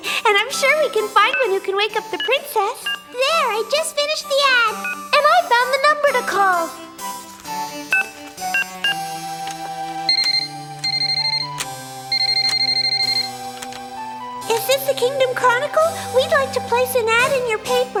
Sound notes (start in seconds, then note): 7.5 buttons beep; 10.0 phone rings